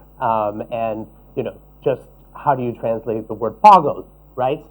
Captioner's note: non-english speech